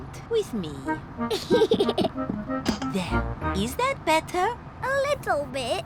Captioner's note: giggles